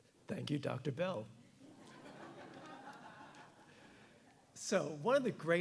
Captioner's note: audience giggling